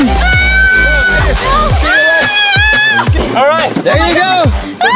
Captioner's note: screaming